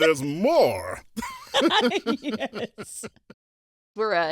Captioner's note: both laugh